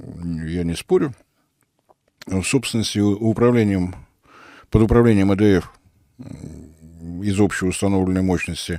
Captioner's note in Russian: фыркает